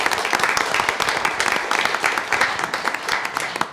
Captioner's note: applause